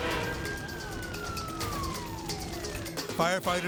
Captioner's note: sirens wailing